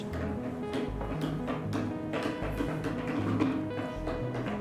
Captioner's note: pencil clicking